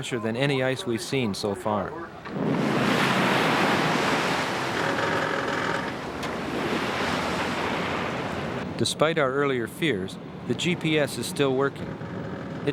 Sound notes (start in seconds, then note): 2.4 swooshing; 4.6 ice and metal creaking